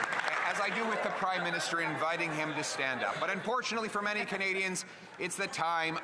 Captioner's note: some Applause